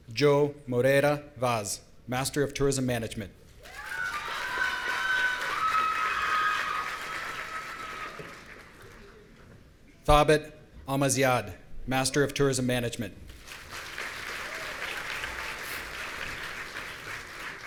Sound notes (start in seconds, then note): 3.6 audience cheering; 13.3 audience applauding